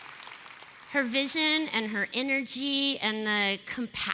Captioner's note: cheering